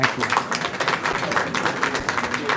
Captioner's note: applause